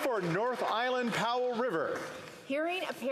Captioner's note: some Applause